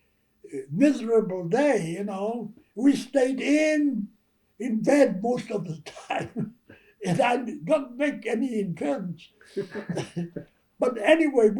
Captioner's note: laughter